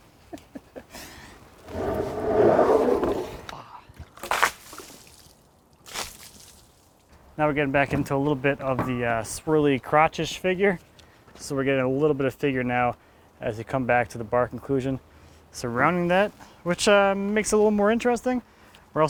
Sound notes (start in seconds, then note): 4.2 water splashing